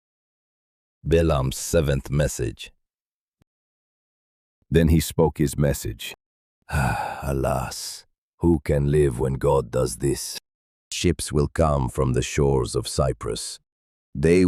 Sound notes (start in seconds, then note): 6.7 sighs